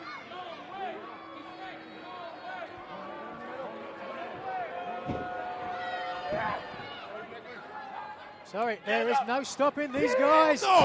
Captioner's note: crowd chatter